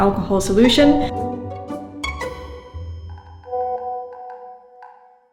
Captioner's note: messages resonating